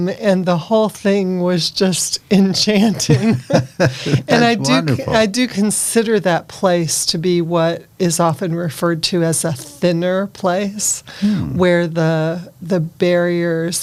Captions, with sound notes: and the whole thing was just enchanting. (laughing) And I do consider that place to be what is often referred to as a thinner place where the barriers